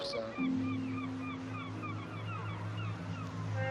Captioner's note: seagulls crying